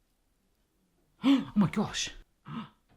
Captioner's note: gasps